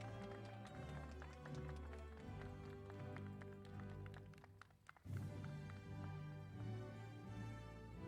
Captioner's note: applause